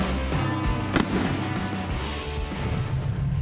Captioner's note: gunshot